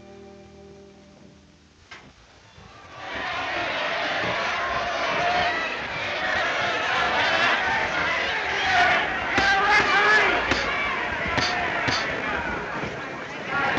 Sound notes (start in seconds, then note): 2.6 audience cheering; 7.5 indistinct chatter